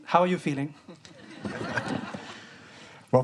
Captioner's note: students laughing